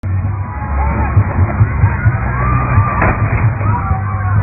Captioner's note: yelling and screams of horror